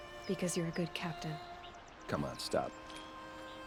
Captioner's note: none